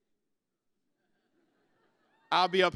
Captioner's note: laughter